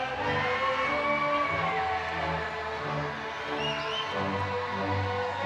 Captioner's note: crowd cheering